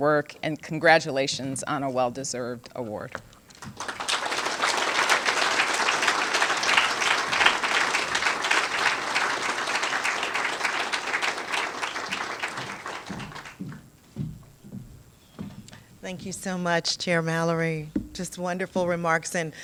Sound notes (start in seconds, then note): 3.5 applause